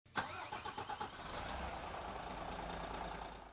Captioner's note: engine revs